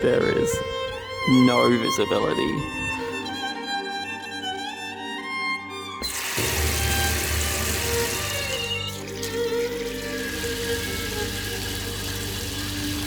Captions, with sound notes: There is no visibility. (opening tap water)